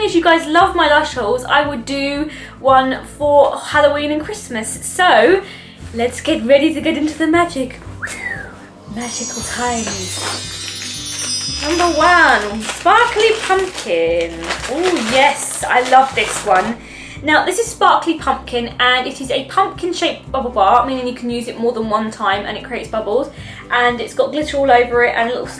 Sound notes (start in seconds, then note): 8.7 glittery magic sound effect